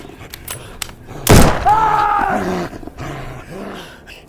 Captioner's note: rifle clacking; rifle fires; panting